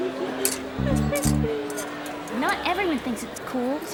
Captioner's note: sobbing